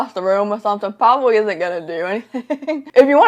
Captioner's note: laughs